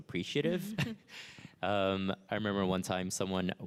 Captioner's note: chuckles